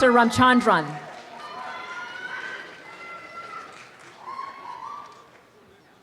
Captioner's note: applause and cheering